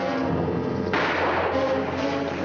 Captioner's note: gunshot